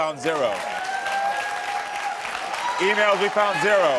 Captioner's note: audience applauding and cheering